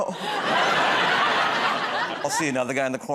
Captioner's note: laughter